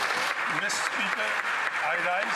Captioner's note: some Applause